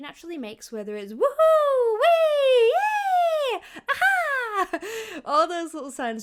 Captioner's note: laughing